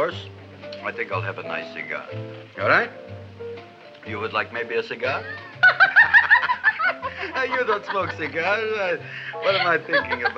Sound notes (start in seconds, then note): 5.1 Gravis laughs; 5.1 Audrey laughs